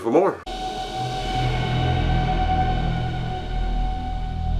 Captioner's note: eerie sound